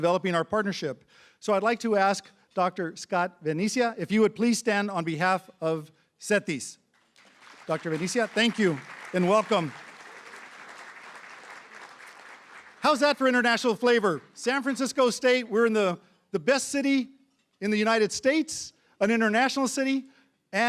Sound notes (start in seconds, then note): 11.1 applause